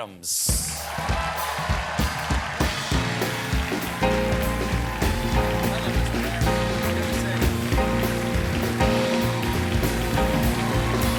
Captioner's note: applause